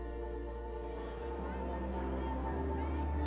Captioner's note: people talking in background